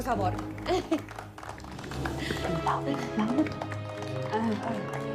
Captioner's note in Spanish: Aplausos